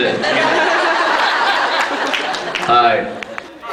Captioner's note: laughs